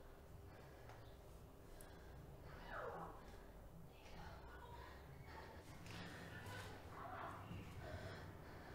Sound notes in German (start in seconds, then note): 2.6 Kindergeräusche leise im Hintergrund